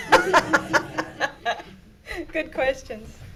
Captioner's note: everyone laughing